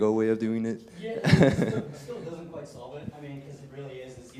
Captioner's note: laugh